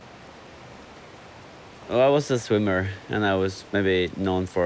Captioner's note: none